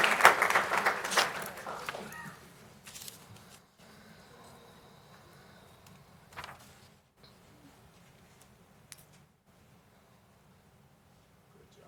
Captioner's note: applause